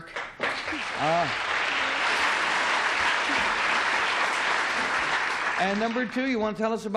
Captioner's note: applause